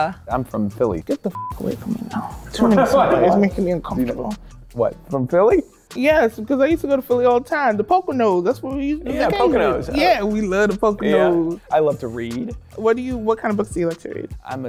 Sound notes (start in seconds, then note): 1.3 beep